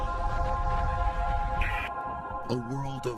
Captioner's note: Static